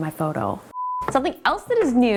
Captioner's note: tone beeping